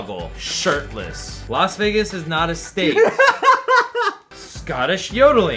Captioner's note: laughs